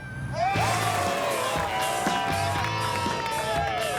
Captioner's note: all cheering; all clapping